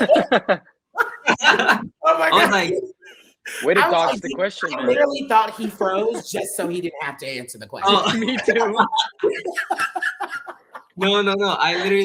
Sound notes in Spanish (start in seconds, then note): 0.9 riendo; 7.8 riendo; 9.5 todos riendo